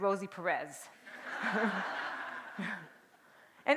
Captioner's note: laughter